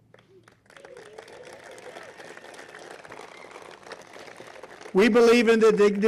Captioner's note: applause